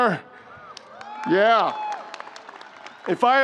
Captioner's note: crowd cheers